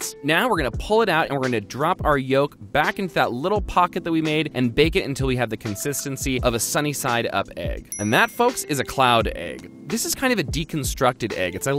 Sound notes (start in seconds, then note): 7.9 dings